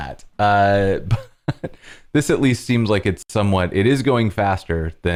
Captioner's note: laughter